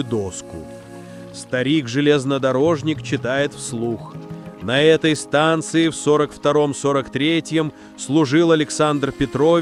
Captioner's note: reading aloud